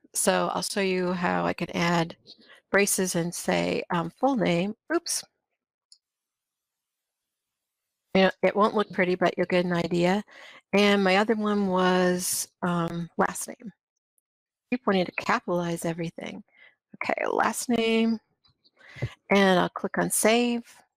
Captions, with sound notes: So, I'll show you how I could add braces and, say, full name. Oops! [silence] It won't look pretty, but you'll get an idea. And my other one was last name. I wanted to captialize everything! OK, last name and I'll click on Save.